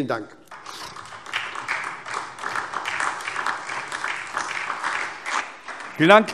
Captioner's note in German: Beifall SPD, DIE LINKE und vereinzelt Freie Demokraten